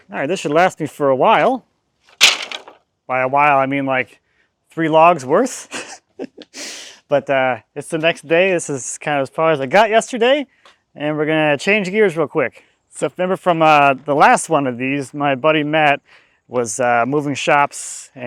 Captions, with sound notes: All right, this should last me for a while. By a while, I mean like three logs worth. (laughs) But it's the next day. This is kind of as far as I got yesterday. And we're gonna change gears real quick. So remember from the last one of these, my buddy Matt was moving shops